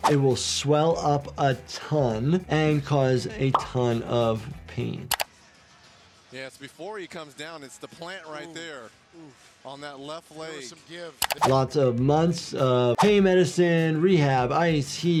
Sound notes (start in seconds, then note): 0.1 audio whooshes; 3.4 graphic pops; 5.0 graphic clicks; 11.2 video clicks; 13.0 audio whooshes